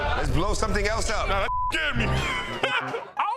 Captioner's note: beep; beep; laughs